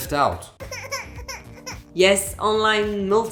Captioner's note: crying baby